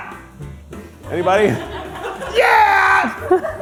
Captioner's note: crew laughing